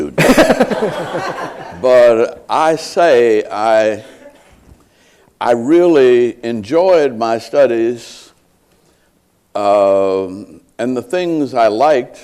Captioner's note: laughter